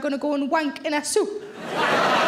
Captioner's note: audience laughing